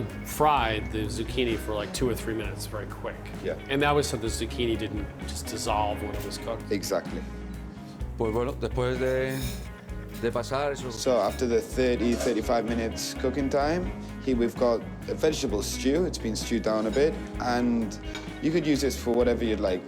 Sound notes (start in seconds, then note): 7.8 speaking Spanish